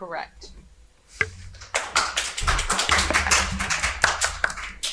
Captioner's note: audience applauding